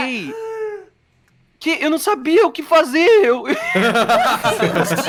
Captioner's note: laughing